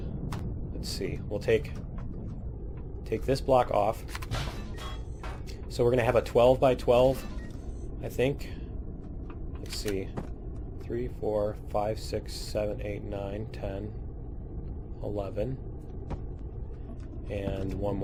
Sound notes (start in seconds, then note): 4.6 pinging